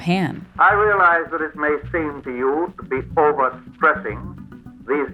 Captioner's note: soundbite of archived recording